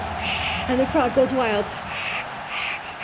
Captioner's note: cheering!